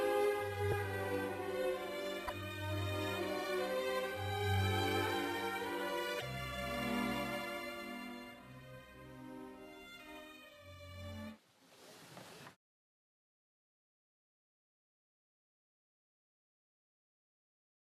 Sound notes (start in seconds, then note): none